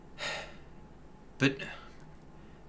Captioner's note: sighs